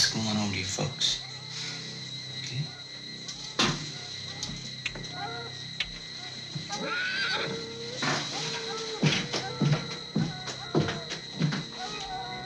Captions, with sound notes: home to your folks, okay? (horse whinnying) (dogs howling)